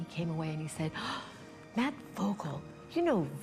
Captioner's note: gasps